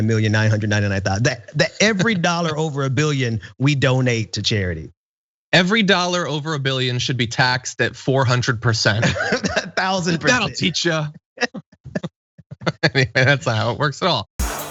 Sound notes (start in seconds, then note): 9.0 laugh